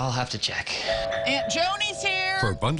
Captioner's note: doorbell ringing